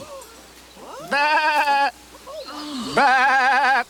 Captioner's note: Crecencio bleats; congregation gasp; Crecencio bleats